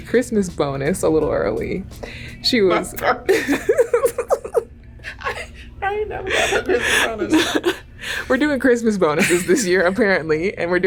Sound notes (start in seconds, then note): 3.2 both laugh